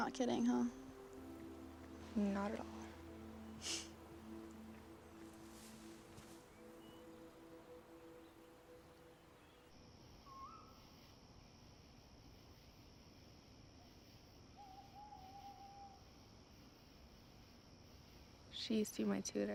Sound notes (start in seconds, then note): 3.5 Dylan sniffles; 10.2 bird hooting